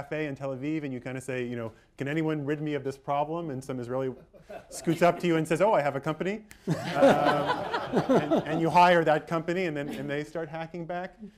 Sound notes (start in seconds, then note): 6.6 laughter